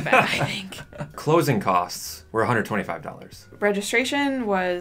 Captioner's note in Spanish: risas